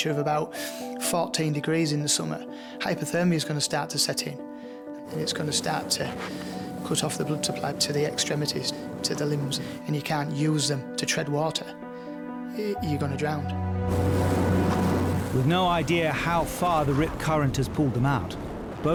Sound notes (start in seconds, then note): 13.5 boat droning; 13.7 water whooshing